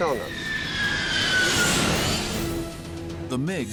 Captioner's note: engines screeching